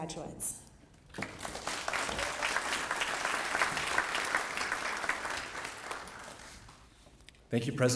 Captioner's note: applause